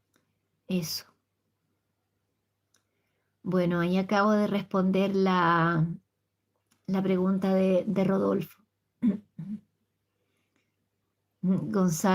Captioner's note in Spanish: carraspeo